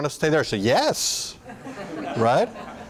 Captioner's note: laughter